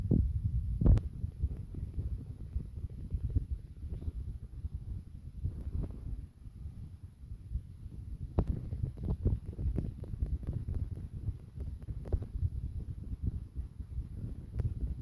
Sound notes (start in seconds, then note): 0.0 rumble!